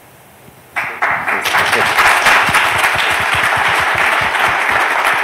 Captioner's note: applause